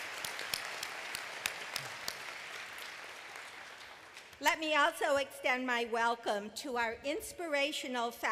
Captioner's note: applause